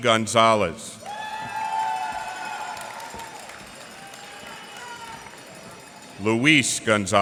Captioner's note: cheers and applause